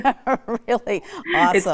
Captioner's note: laughs